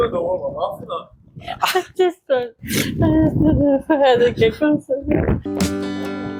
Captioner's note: laughter